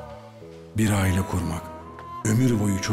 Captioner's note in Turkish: Ahmet dış ses